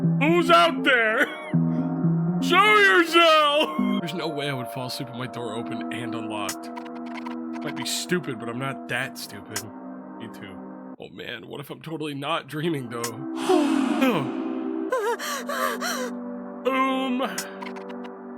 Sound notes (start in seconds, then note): 13.4 creature sighs; 14.8 Skull gasps; 14.8 pants